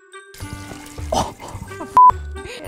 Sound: cheerful music; splashing; beep

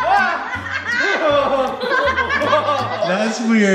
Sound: laughing; yelling

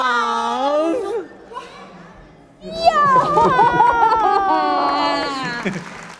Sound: audience clapping; both wailing

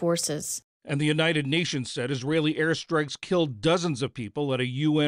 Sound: voice-over

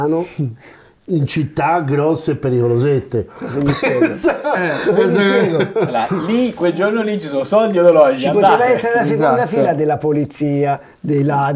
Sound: laughts

